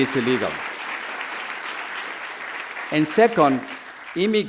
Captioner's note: audience cheers; audience applauds